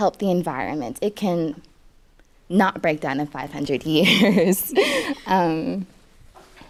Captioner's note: laughs